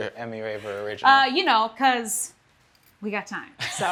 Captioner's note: Daveed laughs